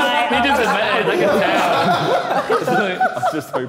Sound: all laughing

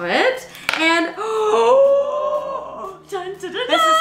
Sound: gasps

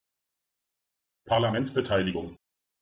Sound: fast Pronunciation

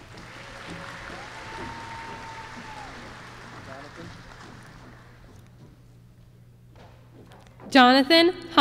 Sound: applause

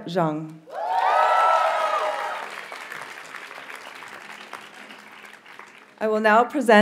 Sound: audience cheers and applauds

